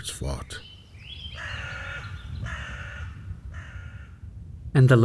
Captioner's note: birds cawing